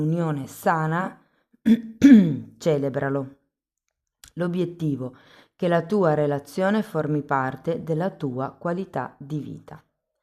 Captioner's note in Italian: schiarire la voce